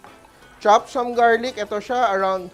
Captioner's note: sizzles